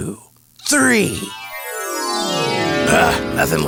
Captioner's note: chimes